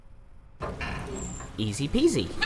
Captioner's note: door opens